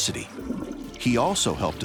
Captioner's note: toilet flushes